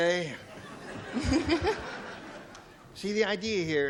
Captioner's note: laughs